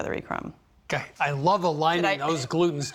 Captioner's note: laughing